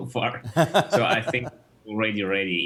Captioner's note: laughing